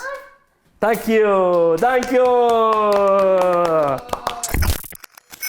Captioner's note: kids clapping